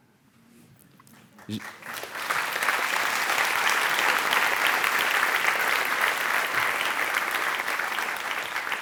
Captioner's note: applause